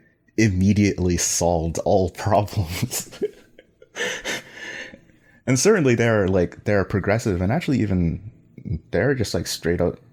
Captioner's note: laughs